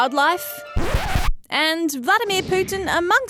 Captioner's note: record scratching